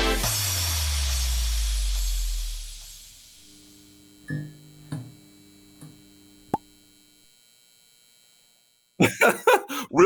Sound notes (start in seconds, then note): 3.4 sounds of elecrical hum, light turning on, then a pop; 9.0 laughs